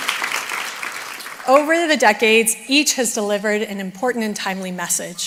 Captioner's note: applause